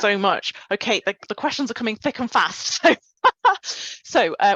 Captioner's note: chuckles